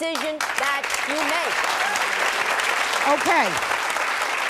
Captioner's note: audience applauding